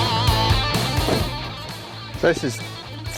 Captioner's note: door slams